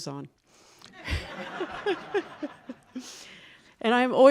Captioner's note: audience laughing